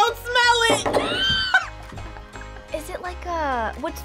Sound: group laughs

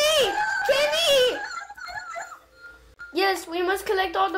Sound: screams

